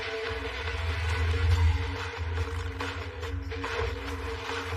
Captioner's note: rock music; motors revving